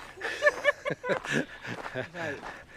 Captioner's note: both laugh